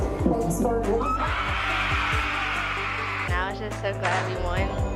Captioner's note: cheering